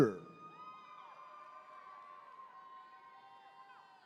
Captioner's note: attendees cheering